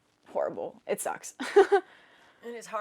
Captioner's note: laughing